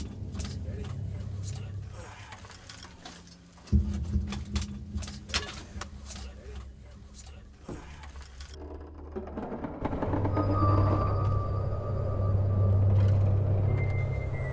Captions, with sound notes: - It's very cramped and tight. (grunts) (trap door creaks) (ominous music)